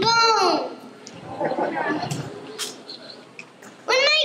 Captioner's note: laughter